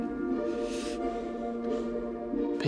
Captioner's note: sniffs